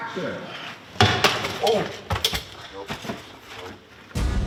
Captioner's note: helmet clanks